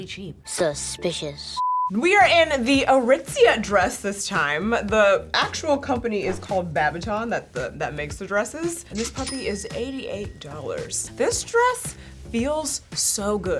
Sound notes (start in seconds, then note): 1.5 color bars beeping; 2.0 mellow funky music; 9.0 cash register dinging